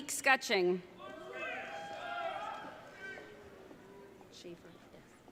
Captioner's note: audience cheering